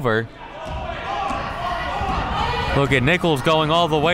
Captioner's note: coaches yelling